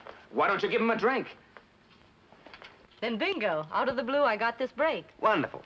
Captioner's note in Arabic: none